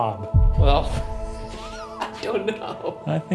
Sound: laughing

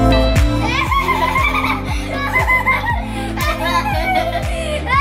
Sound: laugh

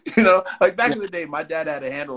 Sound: laughs

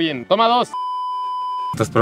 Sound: stay tuned beep

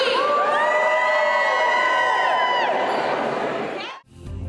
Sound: audience cheering; mellow music

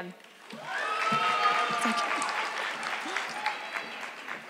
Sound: audience clapping

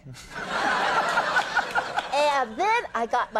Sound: audience laughing

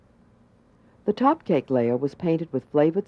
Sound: voiceover

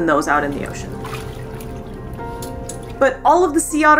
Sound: water splashing noise; background music

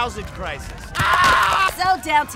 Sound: screams

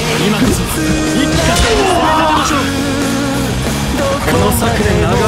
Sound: KO Scream

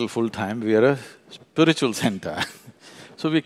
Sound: laughs

